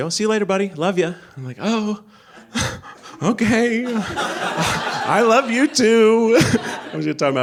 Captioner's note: laughs